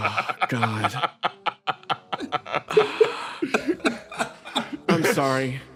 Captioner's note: laughs